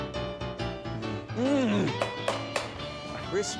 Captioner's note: clapping sound